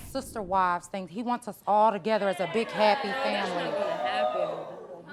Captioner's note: audience murmuring